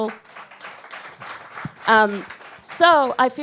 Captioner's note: audience claps